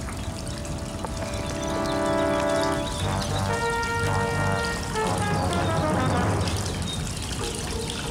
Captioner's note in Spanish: Sonido de agua cayendo